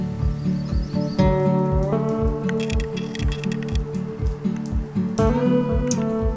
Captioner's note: birds chirping; rain